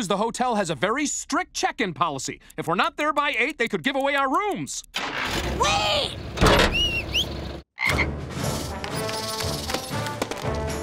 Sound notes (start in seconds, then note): 6.6 whistling; 7.4 croaking